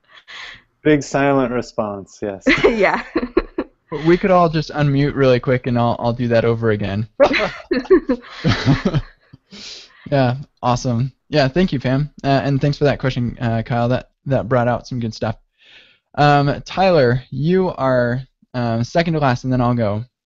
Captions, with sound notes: - Big, silent response, yes. - We could all just un-mute really quick, and all do that over again. (laughter) Awesome, thank you, Pam. And thanks for that question, Kyle. That brought out some good stuff. Tyler, you are second to last, and then I'll go.